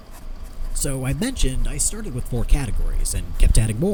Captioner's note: pen scribbling